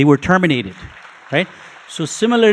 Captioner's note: audience applauding